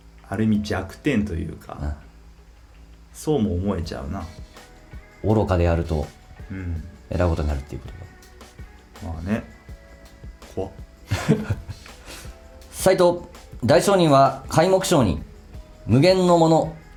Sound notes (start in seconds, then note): 11.1 laughs